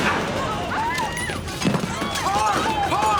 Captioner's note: gunshot; diners screaming